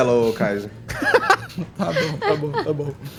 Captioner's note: laughs